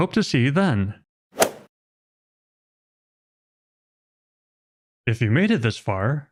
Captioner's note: golf ball hit sound effect